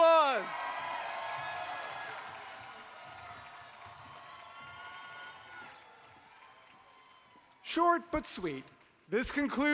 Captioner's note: applause